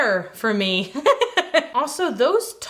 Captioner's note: laughs